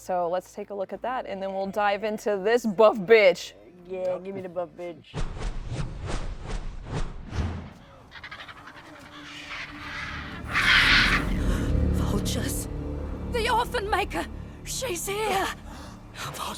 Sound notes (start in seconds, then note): 5.3 panels swooshing; 7.8 vultures cawing